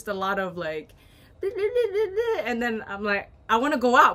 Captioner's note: arguing